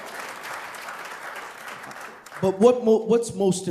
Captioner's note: applause